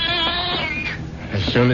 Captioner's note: baby crying